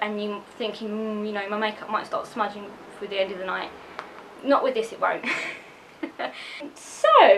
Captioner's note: laughs